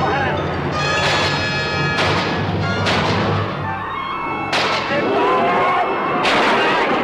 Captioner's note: Colonel Cabeza speaking in Spanish; bullets firing; people screaming; intense instrumental music